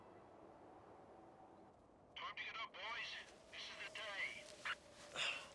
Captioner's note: Carl, on radio